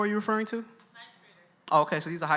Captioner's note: voiceover